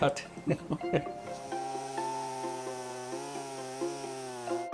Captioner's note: tree cutting